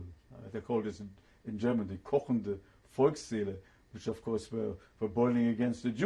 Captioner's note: german